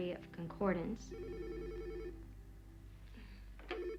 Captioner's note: phone ringing